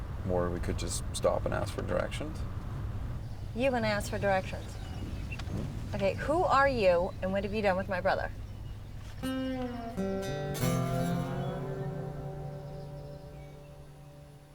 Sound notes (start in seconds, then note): none